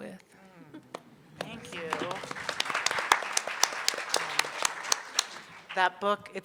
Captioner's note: audience applauding